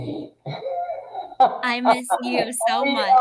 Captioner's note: people laugh